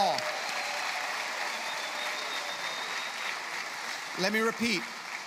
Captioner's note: applause